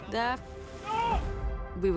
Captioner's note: crew member yells